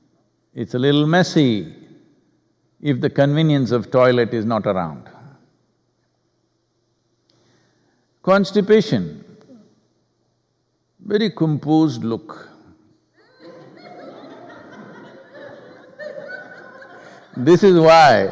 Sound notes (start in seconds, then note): 13.2 laughter